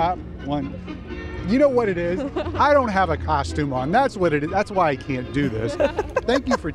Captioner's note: laughter